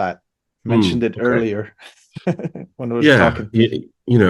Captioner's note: laughs